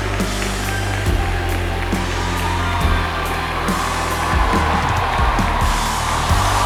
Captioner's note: audience continues cheering; cheerful music continues